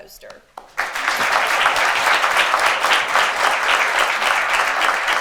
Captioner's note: attendees applaud